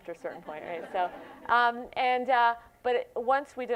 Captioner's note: laughter